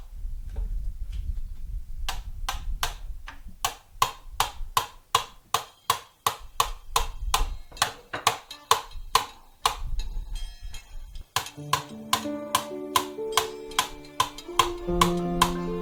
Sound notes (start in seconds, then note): 0.2 birds chirping; 4.6 gentle music; 4.6 tools banging